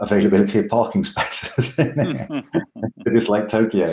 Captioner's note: laughs gently